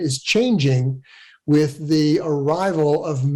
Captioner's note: none